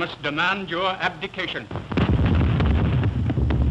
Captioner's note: explosions